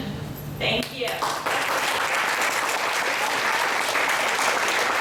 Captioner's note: applause